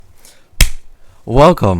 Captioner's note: clap